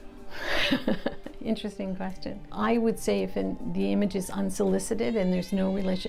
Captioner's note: laughs